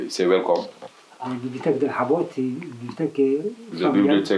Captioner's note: French